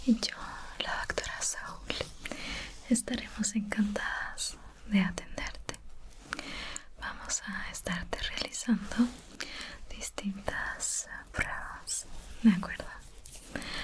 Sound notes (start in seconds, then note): none